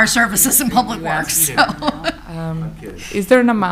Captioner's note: laughs